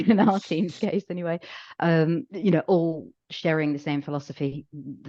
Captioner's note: laughs